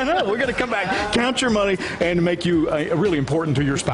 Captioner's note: chuckling